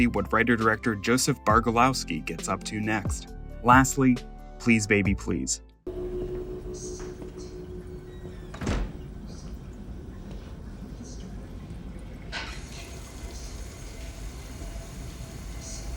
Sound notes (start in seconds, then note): 8.1 door squeaks and closes; 13.0 water running